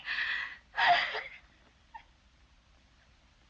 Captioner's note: sobs